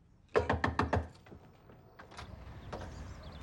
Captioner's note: knocking